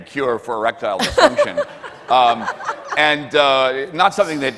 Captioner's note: laughs